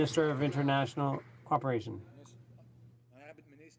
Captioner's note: some Applause